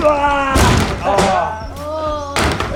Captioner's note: loud grunt; crash; cheering